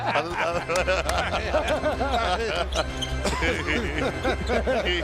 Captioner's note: laughing